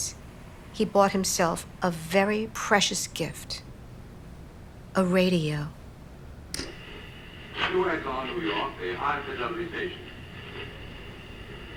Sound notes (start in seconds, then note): 6.6 radio static buzzes